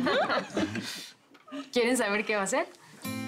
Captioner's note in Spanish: Risas